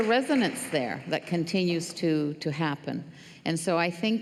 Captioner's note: applause